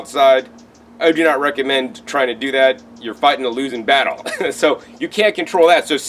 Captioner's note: chuckles